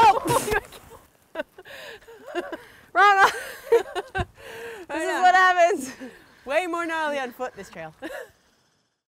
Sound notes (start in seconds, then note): 1.3 laughs